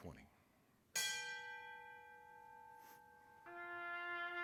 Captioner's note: bell rings once; being played on trumpet